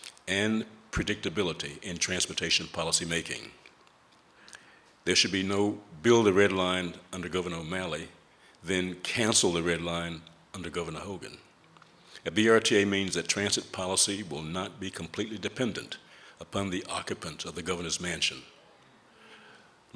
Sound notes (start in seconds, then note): none